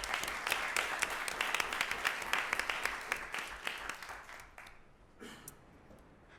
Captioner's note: applause